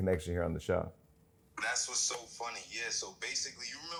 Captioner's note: on phone